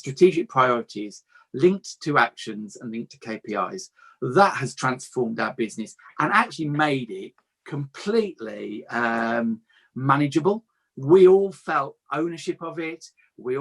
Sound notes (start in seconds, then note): none